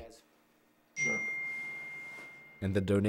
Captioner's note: phone dings